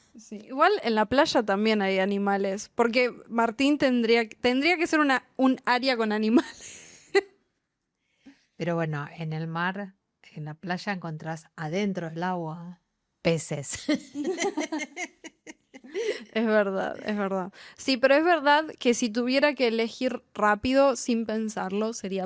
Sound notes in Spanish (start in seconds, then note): 7.0 risas